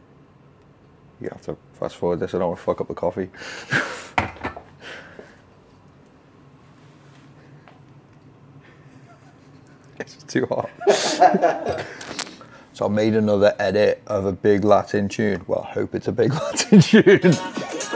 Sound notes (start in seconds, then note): 3.7 laughs; 10.4 guys laugh